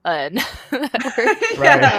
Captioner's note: laughter